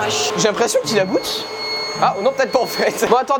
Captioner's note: unfriendly high pitch noise